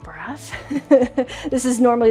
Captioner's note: chuckling